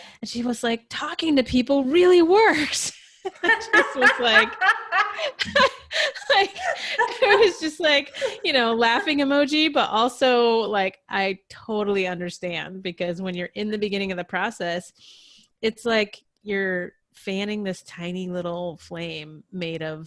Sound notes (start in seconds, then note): 3.4 laughing